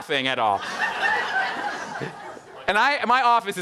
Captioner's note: audience laughing